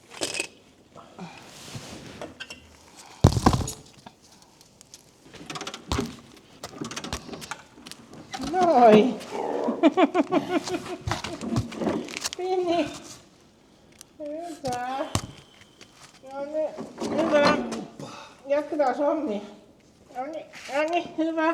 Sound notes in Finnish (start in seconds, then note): 9.6 naurua